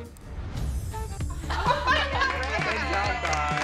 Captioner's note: laughing